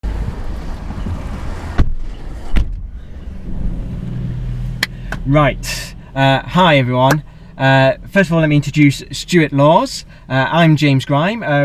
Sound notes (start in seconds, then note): 1.0 car doors close; 5.0 hand clap